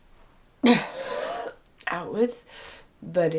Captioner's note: coughs